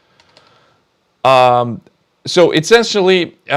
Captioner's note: keyboard clicking